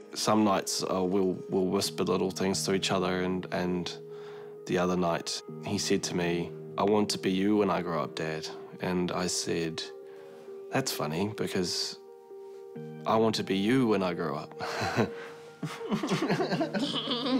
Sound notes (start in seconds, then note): 15.6 chuckles; 15.6 giggles; 15.6 laughs